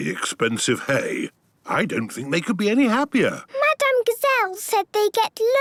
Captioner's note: snorting